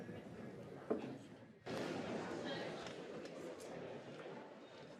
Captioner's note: muffled chatter